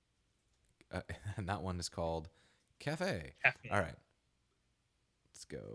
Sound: laughing

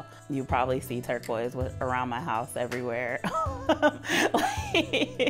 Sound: laughs

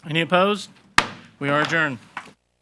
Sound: gavel bangs

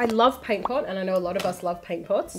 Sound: paint pot pops

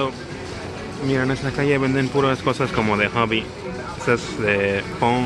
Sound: in Spanglish

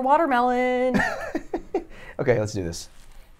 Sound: laughs

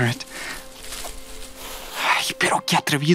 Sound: rustling

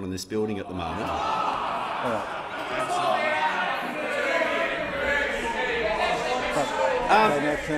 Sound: honourable members interjecting

